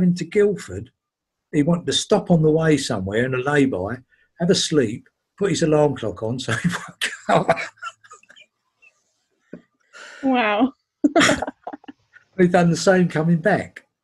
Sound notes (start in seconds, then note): 6.3 laughing; 11.1 laughing